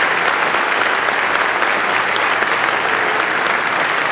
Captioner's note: applause